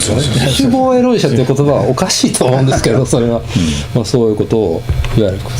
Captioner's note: laughs